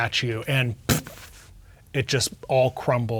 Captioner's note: imitates explosion